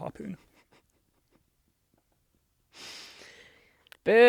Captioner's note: sighs